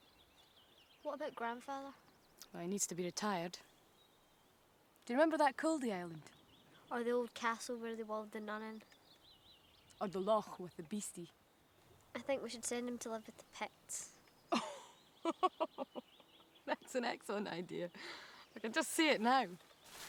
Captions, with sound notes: - What about grandfather? - Well, he needs to be retired. Do you remember that Cullde island? - Or the old castle where they walled the nun in? - Or the loch with the beastie. - I think we should send them to live with the Picts. - Oh (laughs)! That's an excellent idea. I can just see it now.